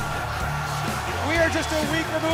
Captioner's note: cheers & applause